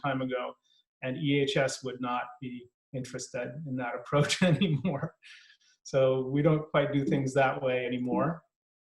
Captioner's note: laughing